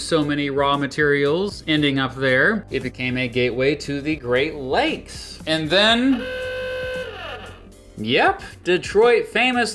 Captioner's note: honk